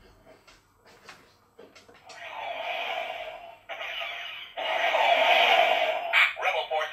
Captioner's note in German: Battle Sounds